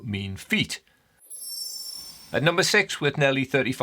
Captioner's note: screen twinkling